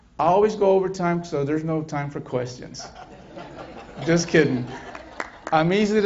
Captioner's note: laughter